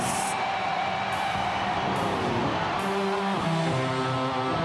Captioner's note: audience cheering